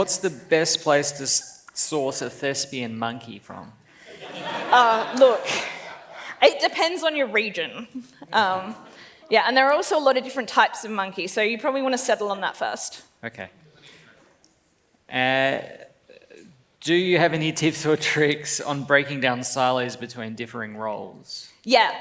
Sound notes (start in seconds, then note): 4.0 laughs